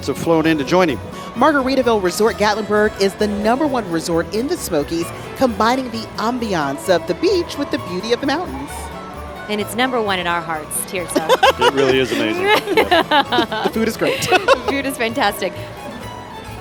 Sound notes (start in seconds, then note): 11.1 laughing